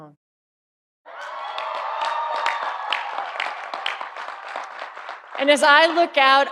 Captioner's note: audience applauding; audience cheering